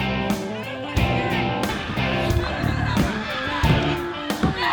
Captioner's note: screams; woman shouting; screaming